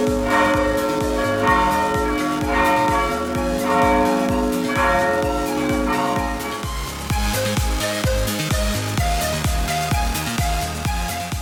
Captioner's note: church Bells Ringing